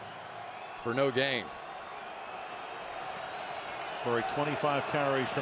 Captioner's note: crowd cheering